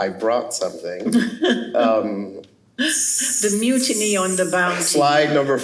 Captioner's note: laughs